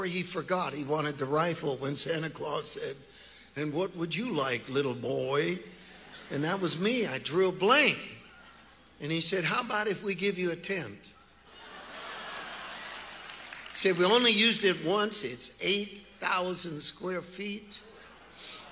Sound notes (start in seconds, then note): 11.4 congregation laughing